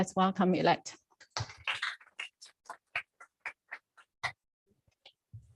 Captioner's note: applause